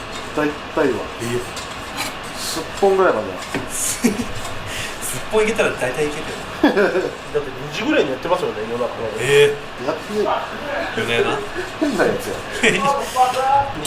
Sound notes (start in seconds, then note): 6.4 laughs; 10.3 laughs